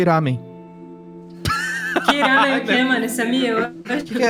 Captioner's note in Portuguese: Risos